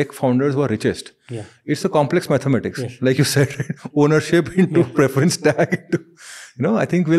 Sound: chuckles

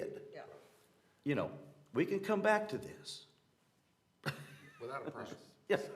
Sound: laughter

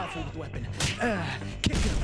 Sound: grunting

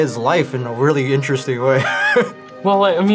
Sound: laughs

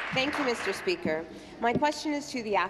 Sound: applause

